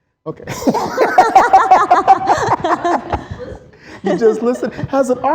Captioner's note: laughter